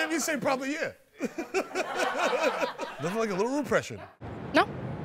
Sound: laughs

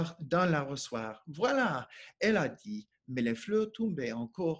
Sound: speaking French

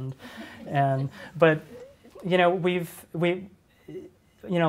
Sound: audience laughs

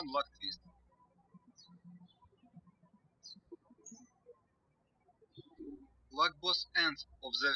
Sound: birds chirping

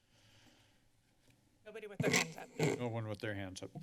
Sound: mic noise

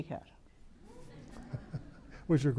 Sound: audience laughs

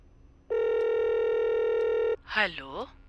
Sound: phone ringing

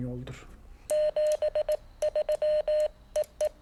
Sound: phone rings

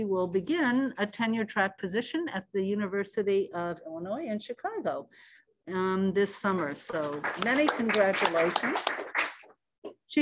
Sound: applause

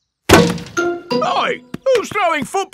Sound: thuds

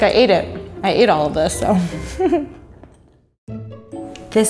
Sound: laughs

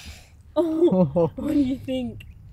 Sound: both chuckle

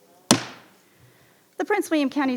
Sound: hammer bangs

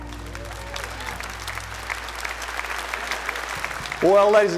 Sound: audience clapping

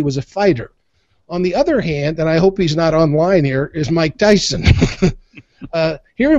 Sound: both laugh

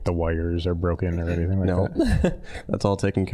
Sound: laughing

